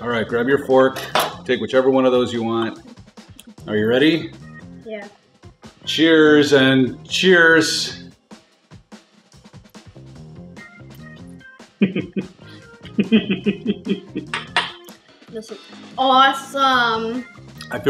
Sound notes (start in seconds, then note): 10.1 chewing; 11.8 laughing